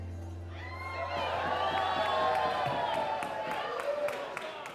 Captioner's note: audience cheering